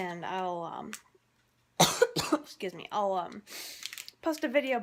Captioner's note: coughs